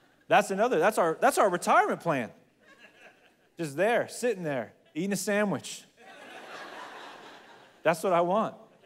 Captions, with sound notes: That's another, that's our retirement plan. It's there, sitting there eating a sandwich. (congregation laughs) That's what I want.